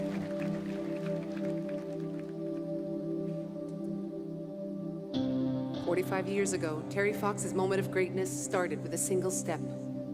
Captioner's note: applause